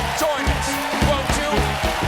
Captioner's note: cheers and applause